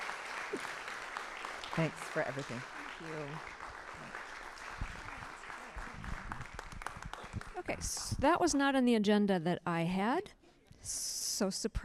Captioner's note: applause